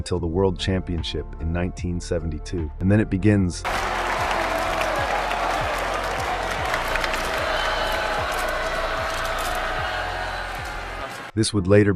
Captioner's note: audience cheering